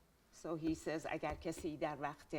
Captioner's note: speaking in Farsi